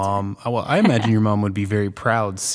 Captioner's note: laughing